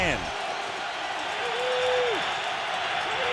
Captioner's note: cheering